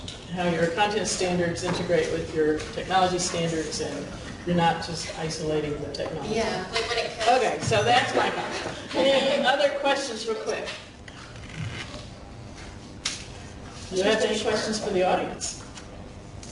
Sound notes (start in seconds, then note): 8.1 laughing